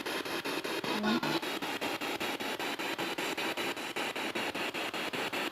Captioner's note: noise of the spiritbox in the background